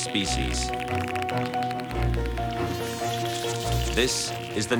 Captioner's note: dolphins clicking, laughing